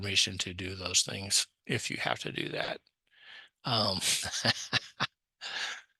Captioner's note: laughs